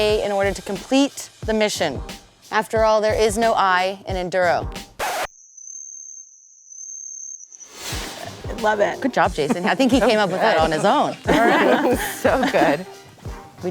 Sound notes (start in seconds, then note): 5.0 record needle scratches; 10.9 laughing